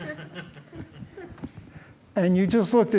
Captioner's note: laughter